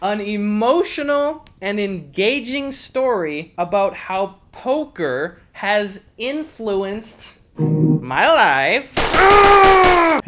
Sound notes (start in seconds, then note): 7.9 Borat voice; 9.0 several gunshots